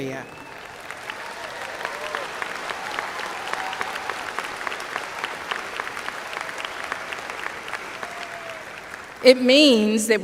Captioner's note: applause